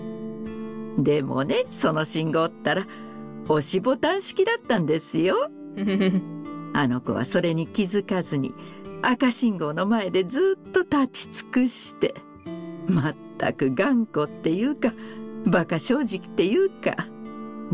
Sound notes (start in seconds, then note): 5.8 chuckles